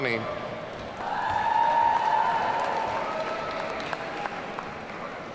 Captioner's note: audience cheering